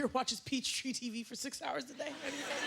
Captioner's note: laughter